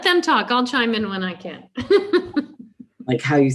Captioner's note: laughs